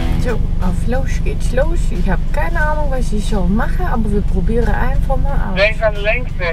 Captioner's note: speaking in a mock Dutch accent